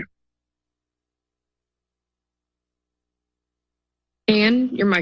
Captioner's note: silence